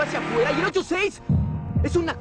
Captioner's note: in Latin Spanish